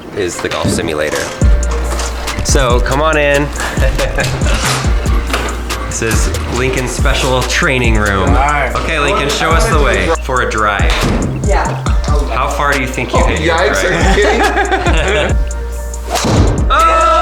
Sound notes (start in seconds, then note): 10.9 ball whacks screen; 16.1 ball whacks screen